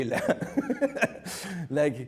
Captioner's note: laughing